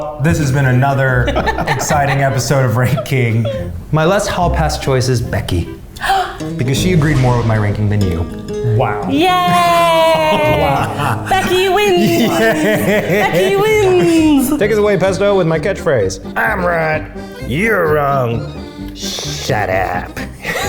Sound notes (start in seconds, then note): 6.0 gasps; 7.2 spanish guitar